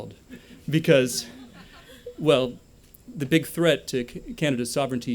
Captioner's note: laughter